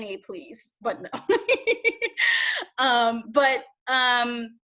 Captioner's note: laughs